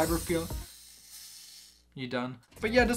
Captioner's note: toy makes weird noise